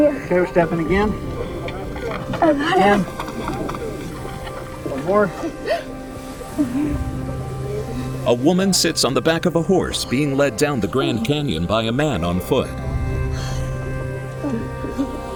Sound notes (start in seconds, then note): 5.4 gasps; 7.4 wind blowing; 9.9 sighs and grunts